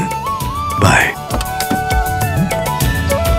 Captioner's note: Car door opens